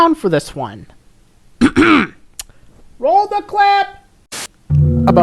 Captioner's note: clears throat